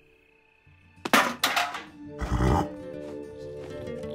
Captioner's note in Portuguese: som de metal; cavalo resfolegando